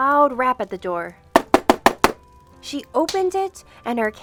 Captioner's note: door knocking